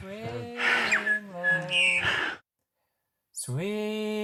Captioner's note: bird chirping